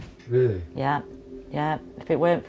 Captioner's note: voiceover